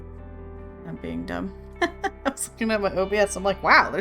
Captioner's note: laughs